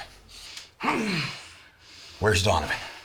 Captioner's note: nazi grunting